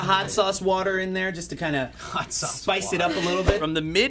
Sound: snickers

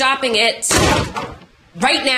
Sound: door slams

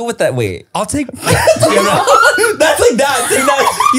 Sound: everyone laughs

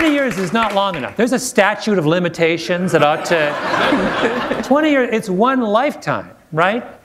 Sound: laughter

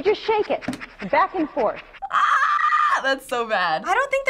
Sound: squeals

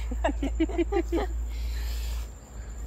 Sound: laughs

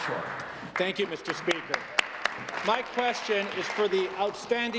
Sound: applause

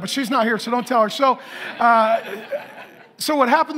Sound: congregation laughing

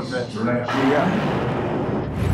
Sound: thunder

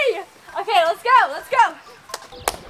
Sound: clapping

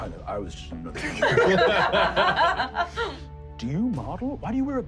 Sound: laughing

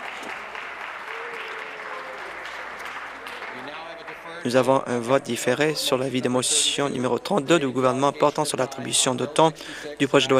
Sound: some Applause

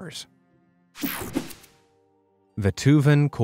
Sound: picture swooshes

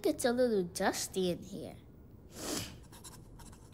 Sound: sniffles

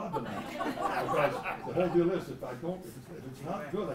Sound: laugh

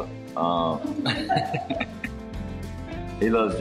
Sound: chuckle

